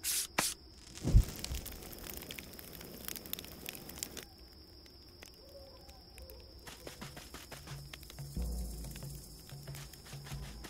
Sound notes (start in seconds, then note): 0.1 scraping; 1.2 campfire crackles; 4.7 crickets; 6.6 footsteps; 7.9 ominous drums; 9.5 footsteps